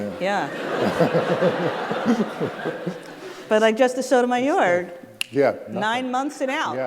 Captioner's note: laughter